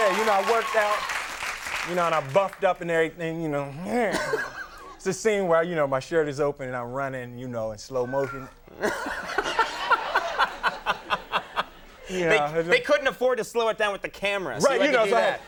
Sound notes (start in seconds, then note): 0.0 crowd cheering; 1.7 audience cheering and clapping; 4.0 Conan laughing; 8.1 Conan laughing